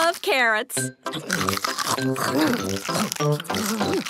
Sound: crunch

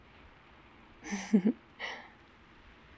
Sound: laughs

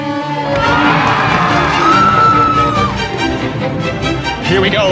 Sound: applause and cheering

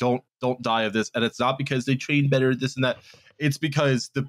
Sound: mocking voice

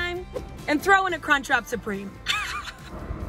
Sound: laughs

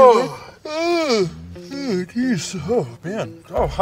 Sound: yawning

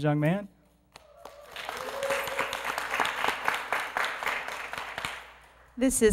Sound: applause

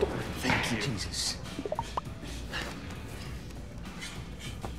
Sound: cell phone popping

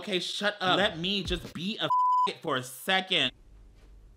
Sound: beep

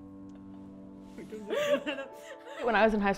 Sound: and friend laughing

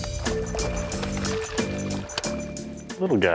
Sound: water splashing

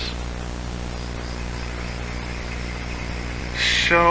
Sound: crickets chirping

